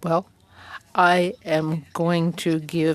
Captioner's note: speaking French